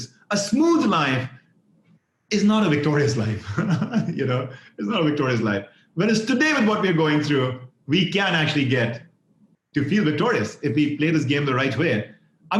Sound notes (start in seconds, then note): 3.3 laughs